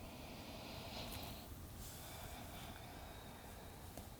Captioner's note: breathes deeply